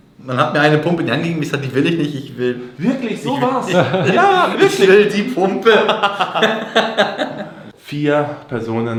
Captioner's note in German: gelächter